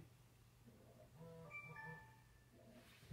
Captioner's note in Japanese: 着信音